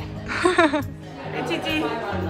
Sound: laugh

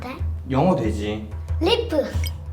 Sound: cowbell sounds

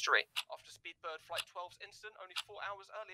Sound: reporter speaking on television

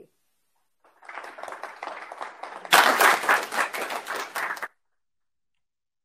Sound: applause

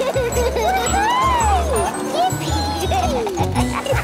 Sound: giggling; laughing

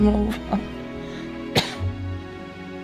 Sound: cough

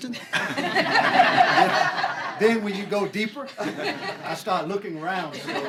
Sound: laughter

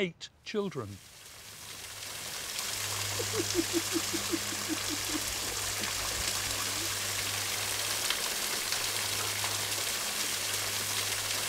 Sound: flowing water and the Fact Hungry Witch giggling

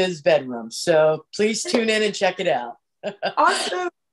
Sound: laughing

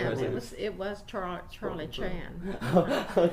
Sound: laughs

